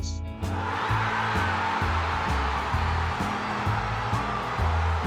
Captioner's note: crowd cheers